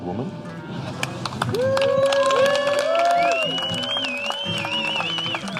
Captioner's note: all cheering, applauding